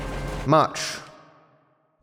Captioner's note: voice echoes